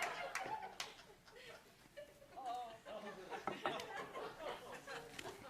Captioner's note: laughter